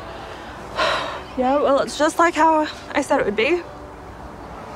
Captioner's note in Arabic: يتنهد